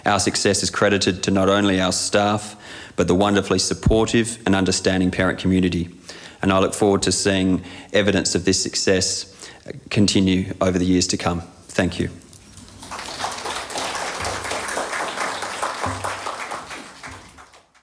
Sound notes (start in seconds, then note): 12.6 applause